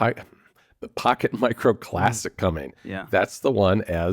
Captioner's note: laughs